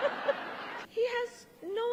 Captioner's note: laughter